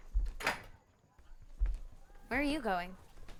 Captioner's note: door clicking closed